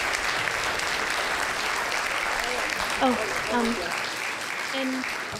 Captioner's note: applause